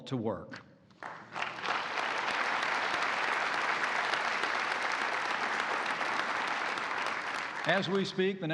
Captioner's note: applause